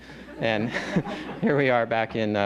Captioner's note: laughter